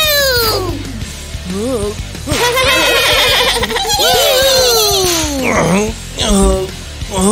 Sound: grunting; screaming and laughing

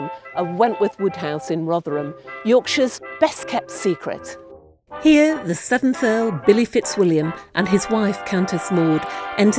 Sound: none

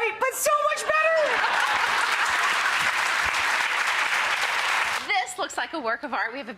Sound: audience applauds

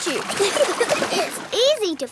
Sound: giggling

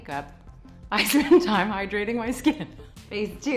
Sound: laughs

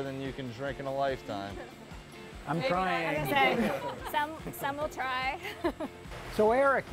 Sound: laughs

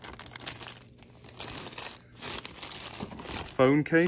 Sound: paper rustling

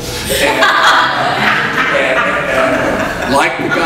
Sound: audience laughs

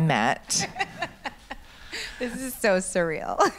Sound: laughs

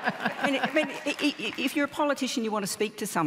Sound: laughter

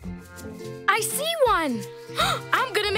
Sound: gasps

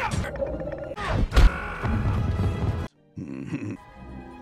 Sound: screaming

